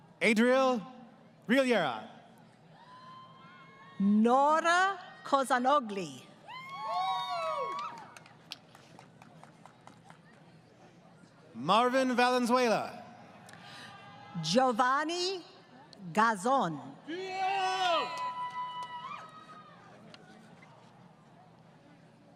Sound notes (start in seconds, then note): 6.5 crowd Cheering; 17.1 crowd Cheering